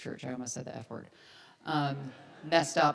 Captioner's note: audience laughs